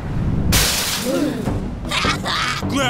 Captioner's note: gasp